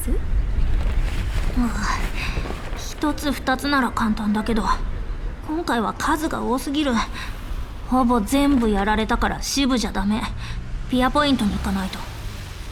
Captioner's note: sigh